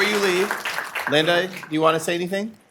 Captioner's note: applause